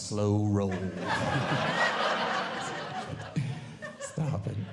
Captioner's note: audience Laughing